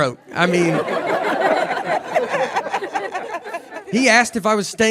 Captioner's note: audience laughing